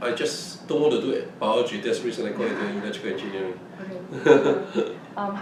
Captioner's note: laughs